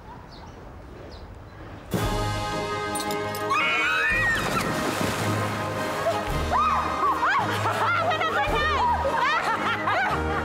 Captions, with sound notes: (screaming) (laughing) It went up my nose!